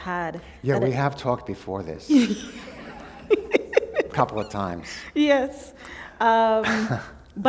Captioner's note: laughter